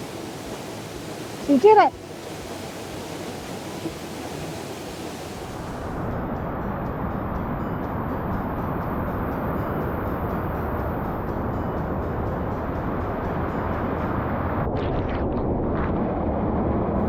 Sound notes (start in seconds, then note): 3.6 rushing water